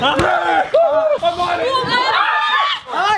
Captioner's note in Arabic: يصرخ; كل يصرخ